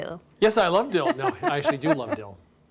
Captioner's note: laughs